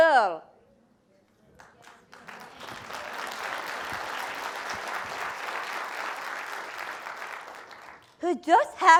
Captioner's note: applause